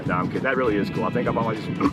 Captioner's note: group laughing